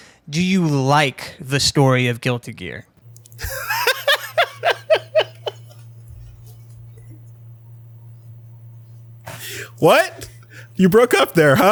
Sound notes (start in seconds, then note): 3.2 laughs